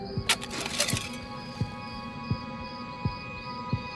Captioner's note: shovel scrapes